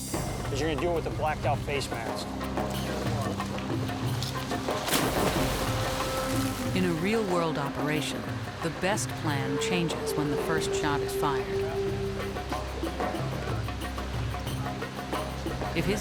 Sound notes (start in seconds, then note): 3.5 tense music; 4.7 water splashes; 12.9 tense music